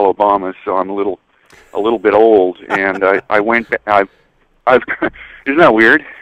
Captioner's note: laughs